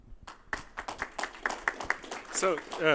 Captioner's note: applause